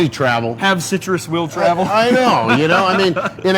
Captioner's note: laughs